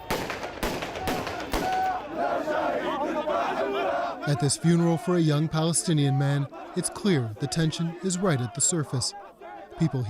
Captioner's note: gunshots